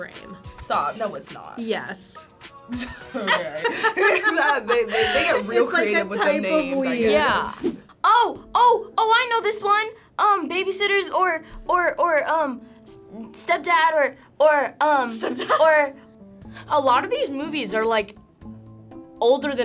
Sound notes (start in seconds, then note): 2.7 laughing